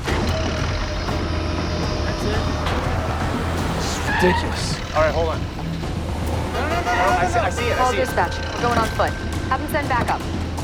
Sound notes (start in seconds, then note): 5.3 horn honks